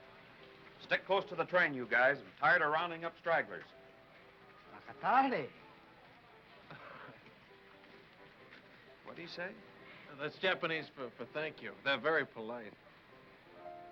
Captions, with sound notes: - Stick close to the train, you guys. I'm tired of rounding up stragglers. (speaking foreign language) What'd he say? - Oh, that's Japanese for thank you. They're very polite.